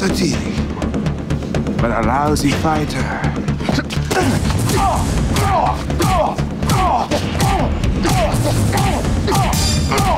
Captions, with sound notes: You are a good cop, Mr. Teague, but a lousy fighter. (Jamison grunts) (blows thudding)